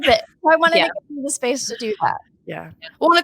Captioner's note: speaking faintly